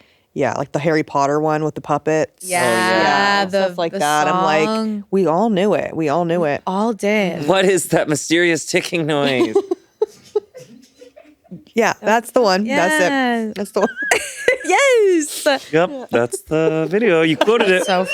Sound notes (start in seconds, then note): 9.2 giggling